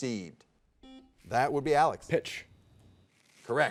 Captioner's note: soft beeping